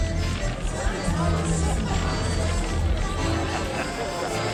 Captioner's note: chatter; upbeat music